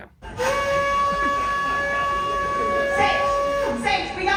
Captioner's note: horn blaring; crowd chattering